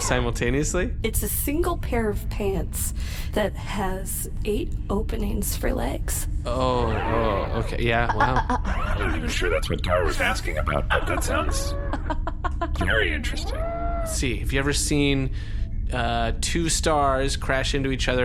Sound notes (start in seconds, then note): 10.4 laughing